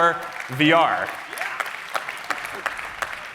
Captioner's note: cheering